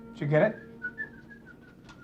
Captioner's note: whistling